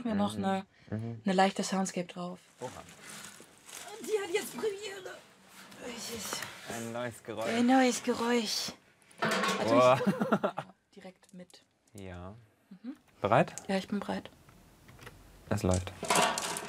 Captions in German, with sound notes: und dann machen wir noch 'ne leichte Soundscape drauf. (ächzend:) Die hat jetzt Premiere. Ein neues Geräusch. - Ein neues Geräusch. Boah! (Er lacht.) Direkt mit ... - Ja. Bereit? - Ja, ich bin bereit. Es läuft.